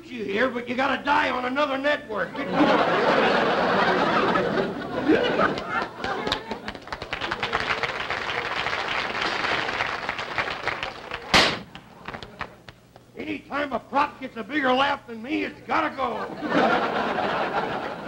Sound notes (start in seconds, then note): 0.2 audience laughter; 5.4 applause; 9.0 gunshot; 14.1 audience laughter